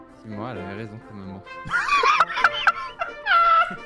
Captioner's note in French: Rires